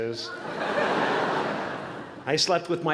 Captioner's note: laughter